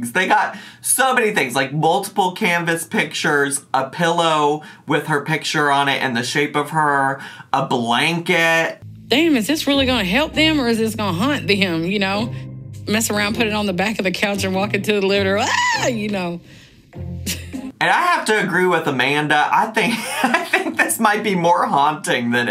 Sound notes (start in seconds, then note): 15.4 screaming; 19.5 laughing